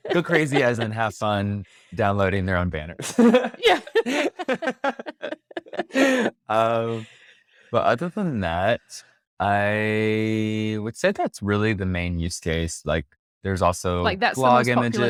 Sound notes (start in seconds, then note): 3.0 laughs